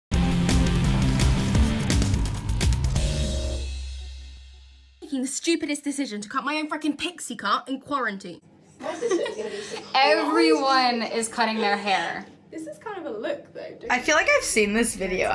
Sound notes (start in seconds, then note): 0.1 rock intro; 8.8 chuckles